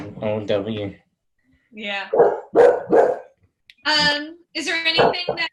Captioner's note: dog barking